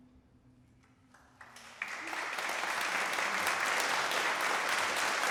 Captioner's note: audience claps